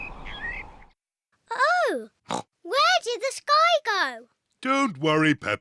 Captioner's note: oinks